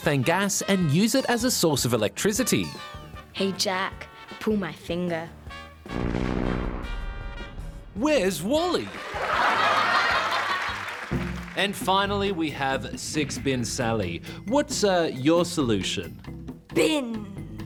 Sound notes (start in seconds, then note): 5.4 farting sound; 8.9 laughter